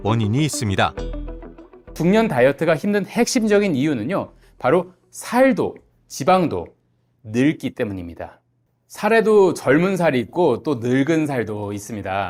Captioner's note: voiceover